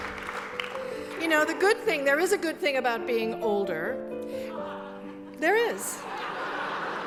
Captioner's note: laughter